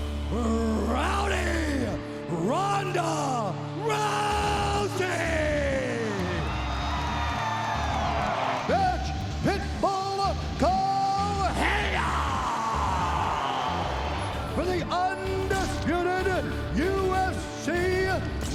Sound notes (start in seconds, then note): 6.5 audience cheering; 12.8 audience booing